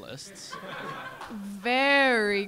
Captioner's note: audience laughing